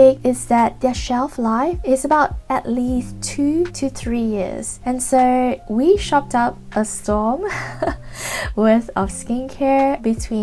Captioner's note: giggles